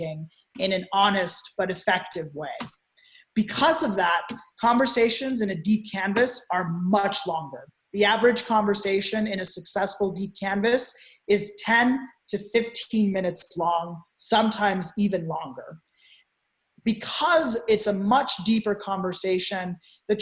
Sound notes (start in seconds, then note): none